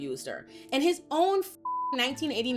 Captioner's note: beep